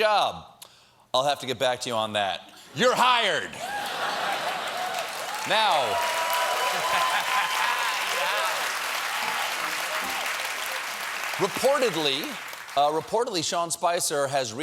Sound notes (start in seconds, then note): 3.5 cheers; 3.8 applause